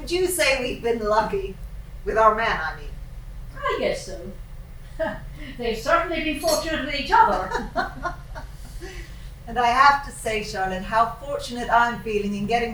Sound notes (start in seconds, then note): 7.1 laughing